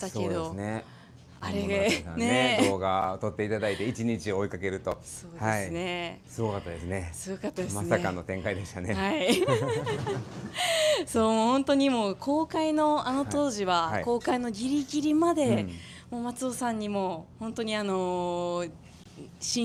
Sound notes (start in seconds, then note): 9.3 laughs